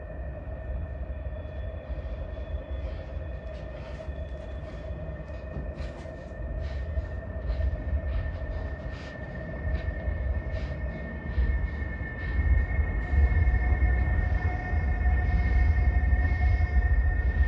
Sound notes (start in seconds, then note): 4.1 Robert breathing heavily; 13.4 tense music continues